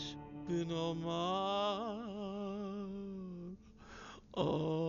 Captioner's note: chanting Hebrew